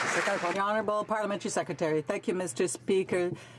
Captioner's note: some Applause